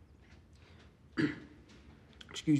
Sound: clears throat

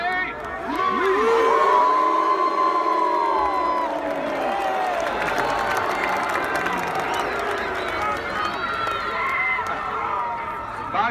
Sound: applause

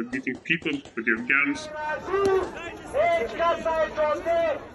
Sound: foreign language

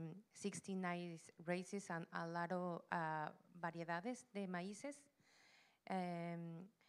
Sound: Spanish language

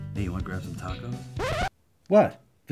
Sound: record scratch

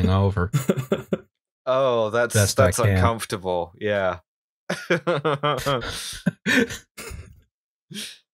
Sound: laughter

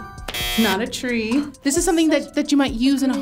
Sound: buzzer chimes; buzzer blares

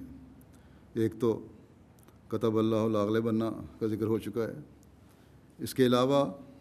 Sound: Arabic

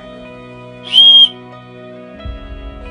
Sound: whisselling tone

